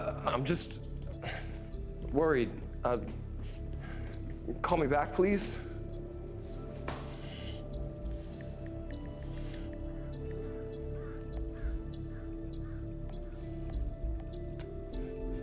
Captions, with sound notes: I'm just worried. Call me back, please. (tense pensive music) (clock ticking)